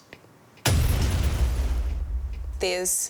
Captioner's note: metal thudding; metal clanging